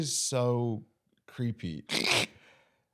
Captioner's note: laughs